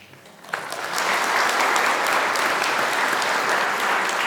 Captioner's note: applause